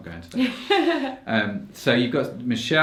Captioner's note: laughs